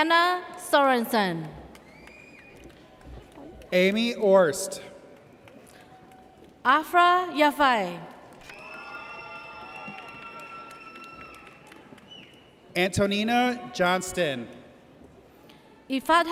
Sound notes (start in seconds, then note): 1.8 audience cheers; 8.4 audience cheers